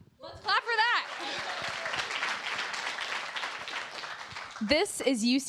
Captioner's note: applause